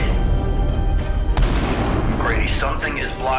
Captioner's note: explosion booming